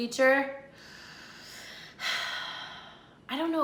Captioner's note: sighs